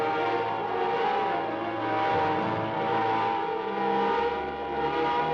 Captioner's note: machine whirring